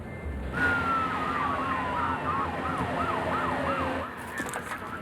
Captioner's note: police siren blares